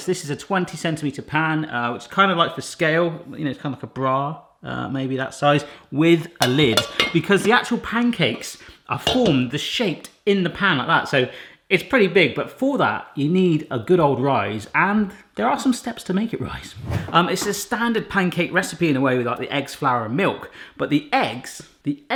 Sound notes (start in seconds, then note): 16.4 air whooshing